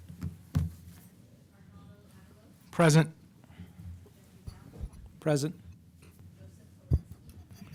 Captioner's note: off mic